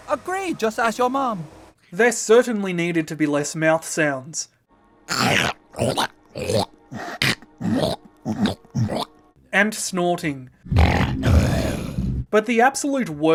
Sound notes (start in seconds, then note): 5.1 more horrific mouth sounds; 10.0 disgruntled snorting